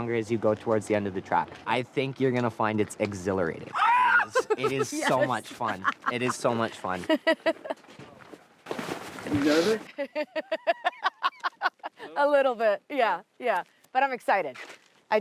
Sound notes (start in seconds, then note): 3.7 screeches; 7.1 laughs